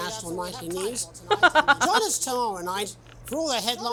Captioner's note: chuckles